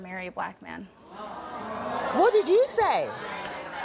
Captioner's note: audience groans